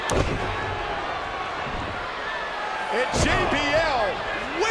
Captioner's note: crowd shouts